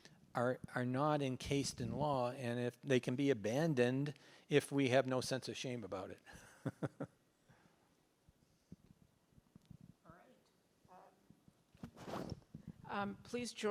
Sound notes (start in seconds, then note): 10.4 laughs